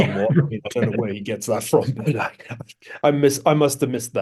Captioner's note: laugh